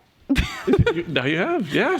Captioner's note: chuckle